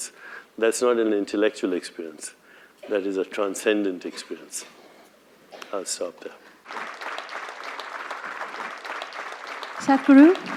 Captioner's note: applause